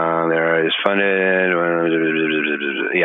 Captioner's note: buzzing